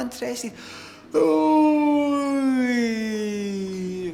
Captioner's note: yawns